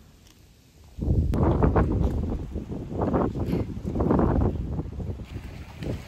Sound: feat. Scary wind sound

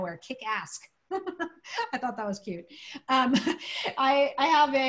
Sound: laughter

